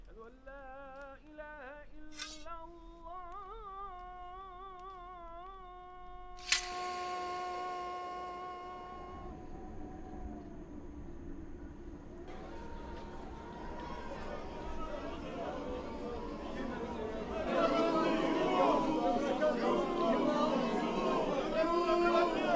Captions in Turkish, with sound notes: "Eşhedü en lâ ilâhe illallah" (İnsanların gürültüsü) (Yuhalama sesleri)